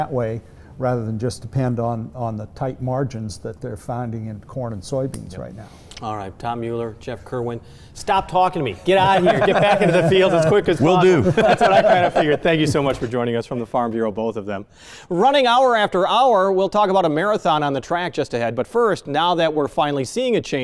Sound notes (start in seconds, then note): 8.9 laughing